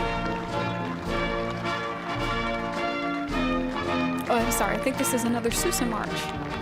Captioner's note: applause